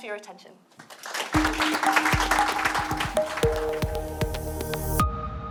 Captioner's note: applause and light upbeat music